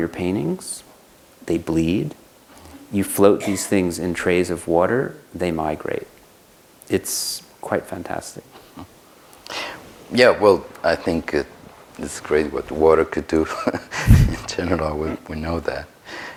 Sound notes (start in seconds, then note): 14.0 laughs